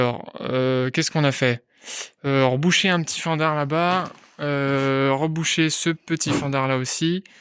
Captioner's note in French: grognement